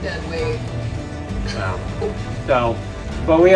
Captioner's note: laughs